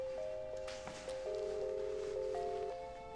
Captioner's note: line ringing